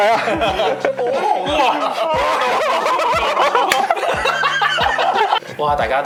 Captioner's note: laughter, inaudible speech